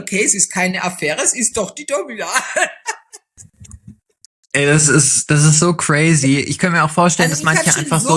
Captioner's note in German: gelächter